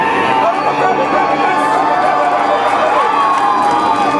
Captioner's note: audience cheers